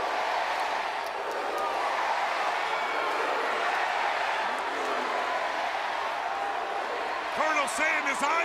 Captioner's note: crowd cheering